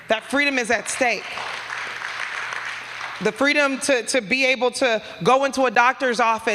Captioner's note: applause